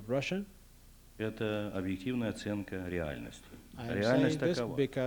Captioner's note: non-english speech